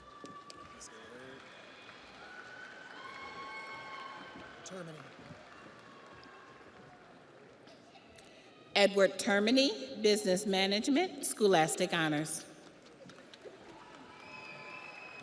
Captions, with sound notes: (audience applauds) (audience cheers) Edward Termany, Business Management, Scholastic Honors.